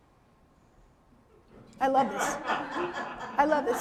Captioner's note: audience laughing